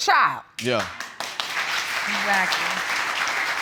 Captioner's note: audience applauds